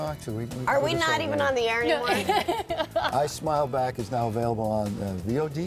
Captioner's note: laughter